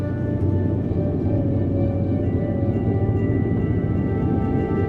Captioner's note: plane engine drone